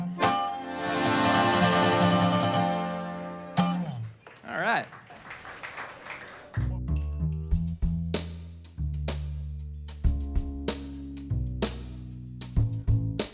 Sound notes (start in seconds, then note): 3.8 applause